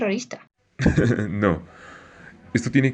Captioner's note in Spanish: risa